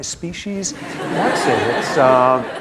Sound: laughter

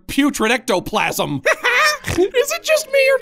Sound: Goofball laughs

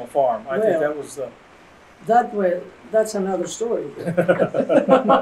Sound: laughter

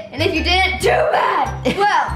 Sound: chuckles

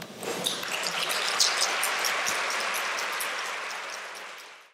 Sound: applause

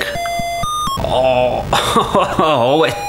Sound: he laughs in disbelief

